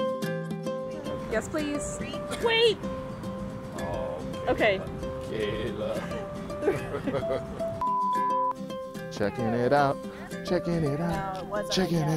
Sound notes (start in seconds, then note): 6.4 chuckles; 7.8 tone beeps